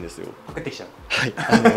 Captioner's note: laughs